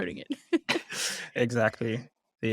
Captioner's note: laughter